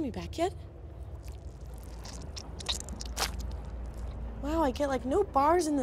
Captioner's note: squishy sounds